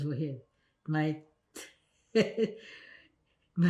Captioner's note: laughing